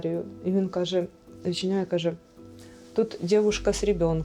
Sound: russian language

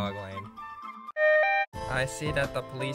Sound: police siren

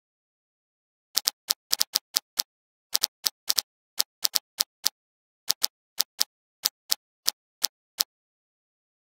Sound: sound of typewriter

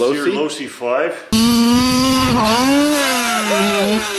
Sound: car engine roars; men cheer

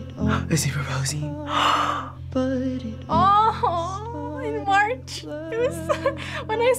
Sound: gasps

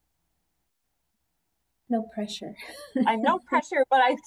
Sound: laughter

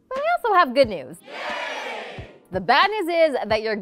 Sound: crowd

